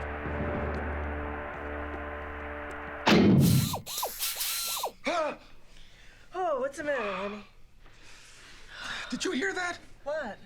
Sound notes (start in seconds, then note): 2.2 thud; 3.4 whirring; 5.1 gasps